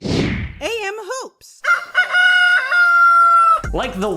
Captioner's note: rooster crows